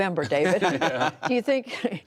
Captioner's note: laughter